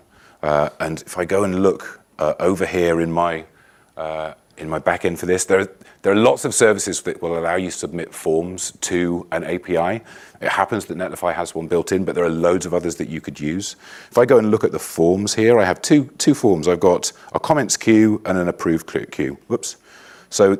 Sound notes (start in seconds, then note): none